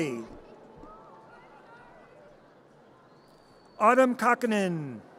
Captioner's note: audience cheers